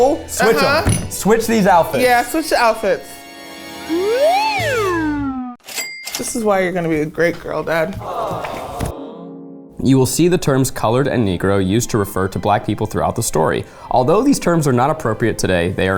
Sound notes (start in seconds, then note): 3.8 slide whistle note plays; 3.8 cash register dings